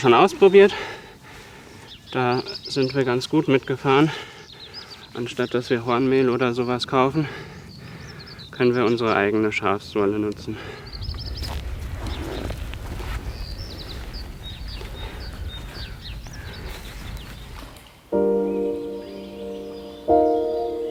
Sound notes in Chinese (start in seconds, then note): 11.2 鸟鸣声